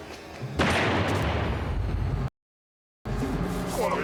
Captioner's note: gunshot; speaking alien language